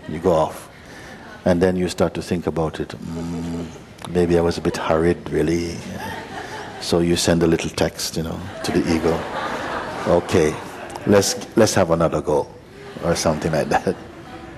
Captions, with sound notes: You go off, and then you start to think about it, 'Hmm, maybe I was a bit hurried really'. [laughter] So you send a little text to the ego, [laughter] 'OK, let's have another go', or something like that.